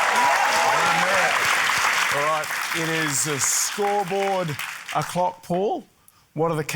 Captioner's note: cheering, applause